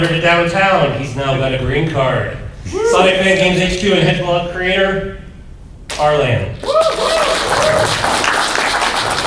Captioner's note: applause